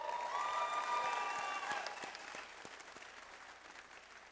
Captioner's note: audience applause